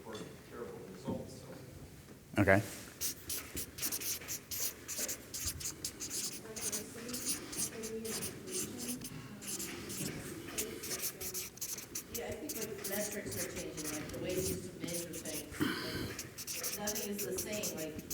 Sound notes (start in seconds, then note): 4.6 marker squeaking